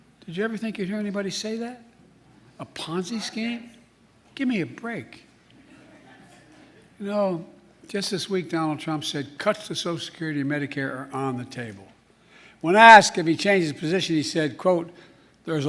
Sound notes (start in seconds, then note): 5.7 laughter